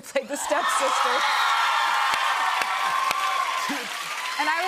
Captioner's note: cheers and applause